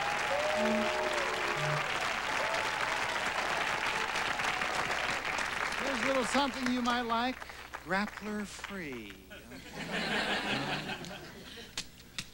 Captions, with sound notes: HERE'S A LITTLE SOMETHING YOU MIGHT LIKE. GRAPPLER-FREE. ( laughter )